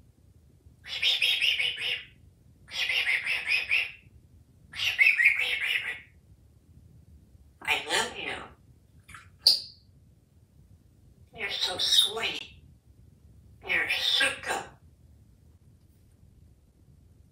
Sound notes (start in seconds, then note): 0.9 whisper sounds